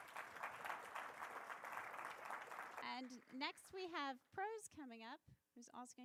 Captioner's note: applause